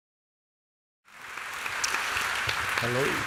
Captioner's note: applause